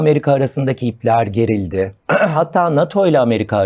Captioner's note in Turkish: boğazını temizler